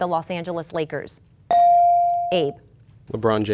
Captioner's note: bell dinging